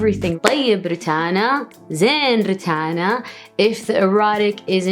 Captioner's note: foreign language